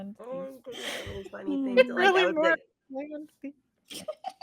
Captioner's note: cast laughing